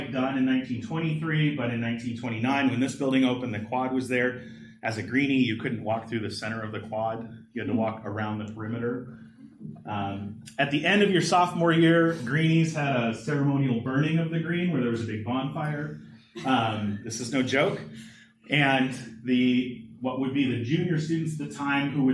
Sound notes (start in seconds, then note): 16.4 laughter